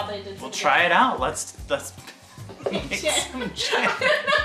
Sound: laughs

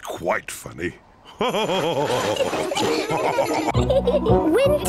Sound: all laugh; giggling

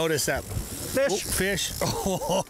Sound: fishing reel whirring

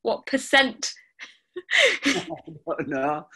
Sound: laughing

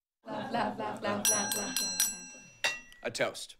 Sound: clinking on glass

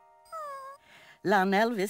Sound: cat meows

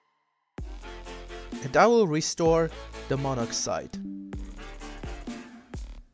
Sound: Windows 11 Background Sound

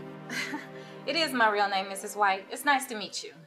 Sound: laughs

